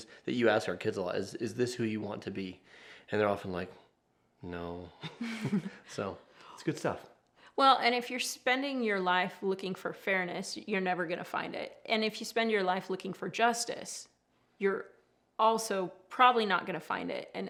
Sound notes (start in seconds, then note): 5.0 both chuckle